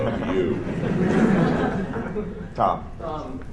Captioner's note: laughter